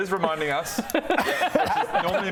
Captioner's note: observant laughter